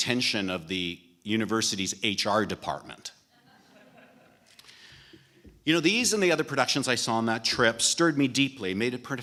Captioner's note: laughter